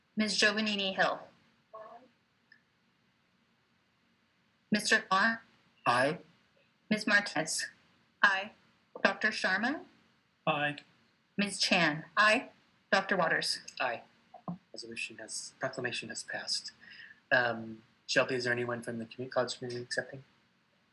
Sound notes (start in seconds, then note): 5.8 audio distortion